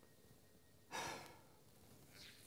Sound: Nathan sighs

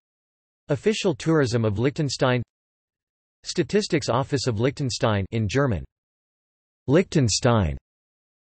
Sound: in German

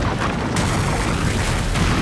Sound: smashing

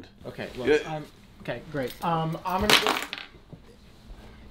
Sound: keys drop

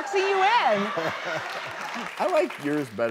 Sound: audience laughing, clapping

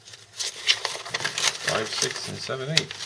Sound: shuffling paper

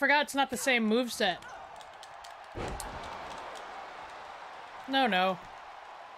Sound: applause

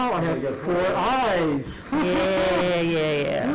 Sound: laughing

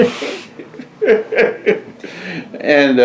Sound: laughter

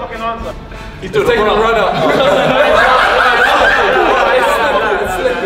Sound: group laughs

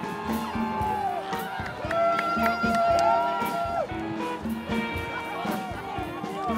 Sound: applause

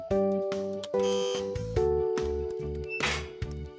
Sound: buzzes

